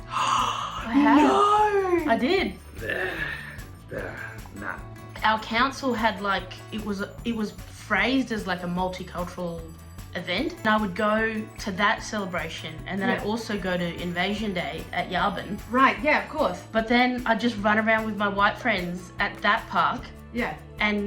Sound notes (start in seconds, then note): 0.0 gasps; 2.8 sighs